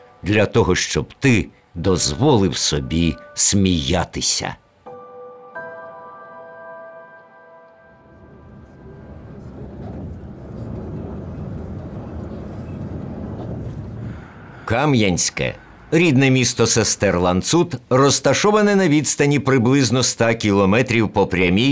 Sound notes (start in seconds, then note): 8.4 noise from the car; 13.2 A street noise